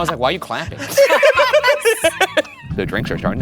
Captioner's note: laughing